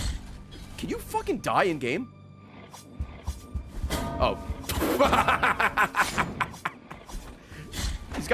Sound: laughs

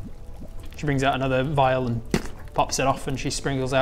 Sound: pop

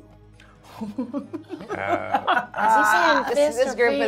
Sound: gamers laughing

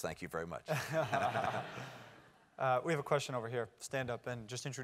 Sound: laugh

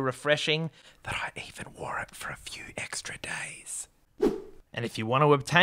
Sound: whispers

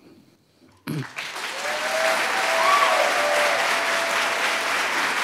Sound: audience applauds and cheers

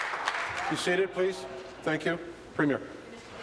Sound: applause

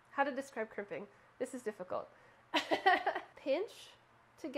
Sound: laughing

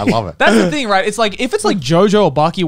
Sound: laughing

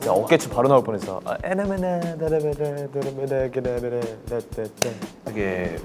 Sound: vocalizes; claps

